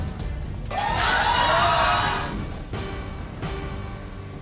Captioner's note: audience yelling